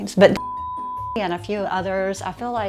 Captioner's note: beep